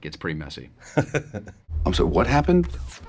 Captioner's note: laughs